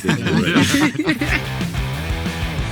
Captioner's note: group laughing; upbeat rock music